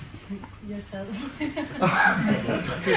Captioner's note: laughter